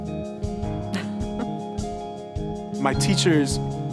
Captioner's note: laughs